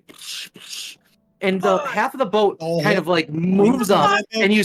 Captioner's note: flabergasted player noises